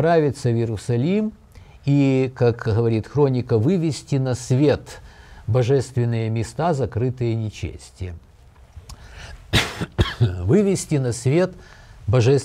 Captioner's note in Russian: кашляет